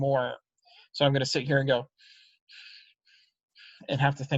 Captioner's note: breathes loudly